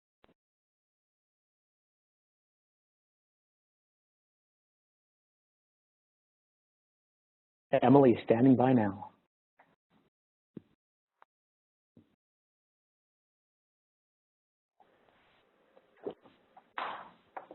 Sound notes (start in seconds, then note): 0.0 pause